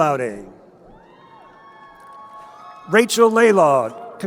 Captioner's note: crowd cheering